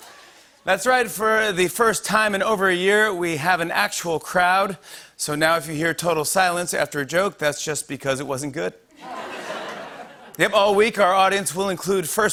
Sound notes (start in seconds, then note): 8.9 laughter